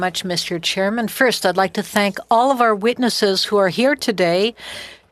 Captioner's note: speaking French